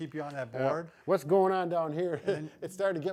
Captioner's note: chuckles